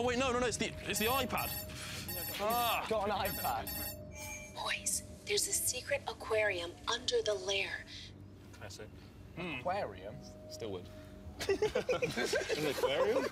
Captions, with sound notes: - [Ringing] - Got an iPad. Boys, there's a secret aquarium under the lair. - Classic. - Aquarium? - Still would. - [Giggling] - In the aquarium?